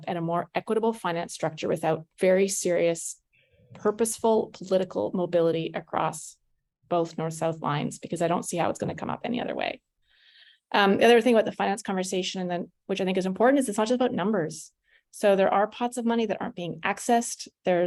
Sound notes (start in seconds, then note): none